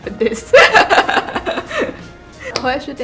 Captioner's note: slight giggling